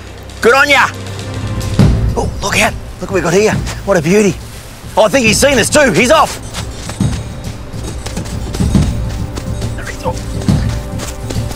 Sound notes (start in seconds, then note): 6.5 sand crunching; 8.6 dramatic music